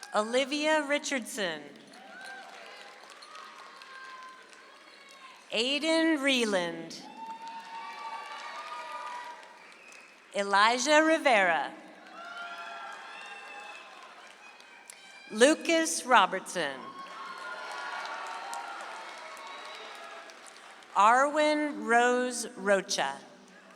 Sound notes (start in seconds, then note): 1.8 audience applauds; 7.1 audience applauds; 11.9 audience applauds; 16.8 audience applauds; 23.6 audience applauds